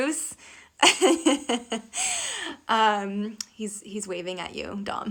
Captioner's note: laughing